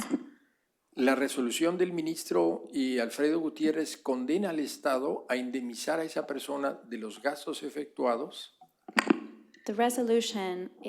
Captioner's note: speaking spanish